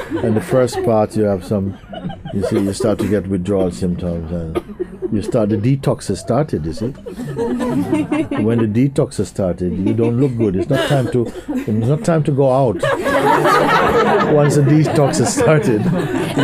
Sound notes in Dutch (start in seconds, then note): 6.1 gelach; 12.8 meer gelach